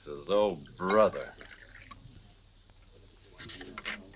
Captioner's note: bourbon sloshing; page rustles